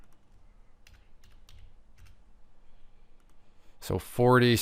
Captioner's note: keyboard clacking